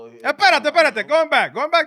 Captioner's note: speaking In Foreign Language